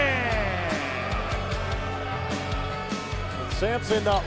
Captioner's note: crowd cheering